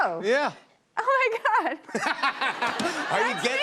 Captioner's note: laughter